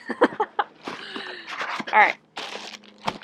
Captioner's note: laughs